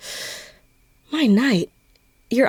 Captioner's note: she gasps